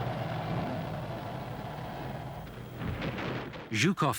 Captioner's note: wind howling; explosions booming